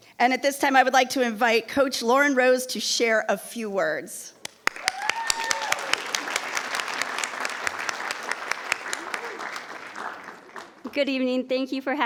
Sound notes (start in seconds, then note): 4.6 attendees applauding; 4.7 attendees cheering